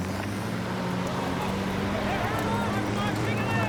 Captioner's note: men shouting